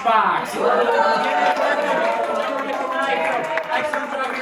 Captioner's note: cheering